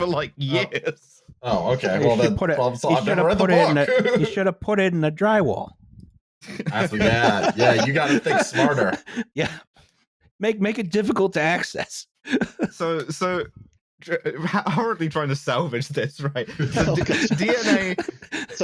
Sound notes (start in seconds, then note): 1.6 laughing; 6.4 laughter; 12.2 still laughing; 16.4 also laughing